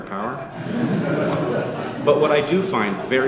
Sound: audience laughing

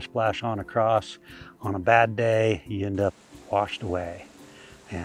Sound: rushing water

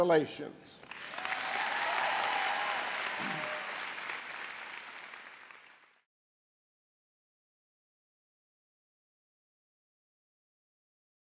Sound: applause

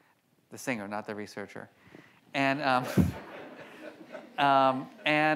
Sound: audience laughs

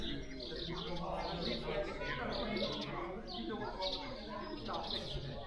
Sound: birds chirping, people in the distance talking

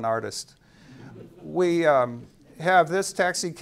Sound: audience chuckling

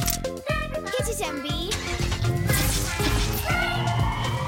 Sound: engine revving

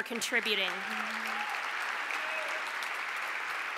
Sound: applause

